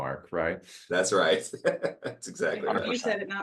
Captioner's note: laugh